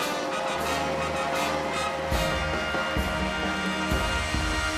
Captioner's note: cheers and applause